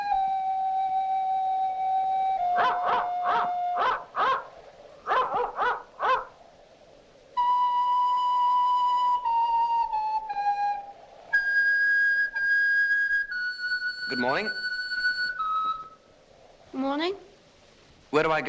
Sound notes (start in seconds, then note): 2.5 barking